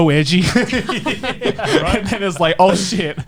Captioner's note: laughs